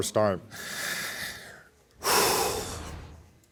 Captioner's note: sighs